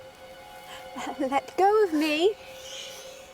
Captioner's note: Betty gasps